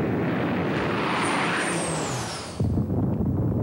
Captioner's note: aircraft screeches; flames roar